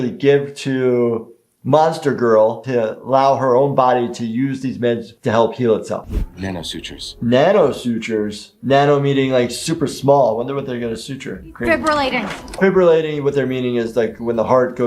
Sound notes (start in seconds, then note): none